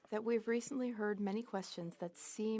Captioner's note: speaking French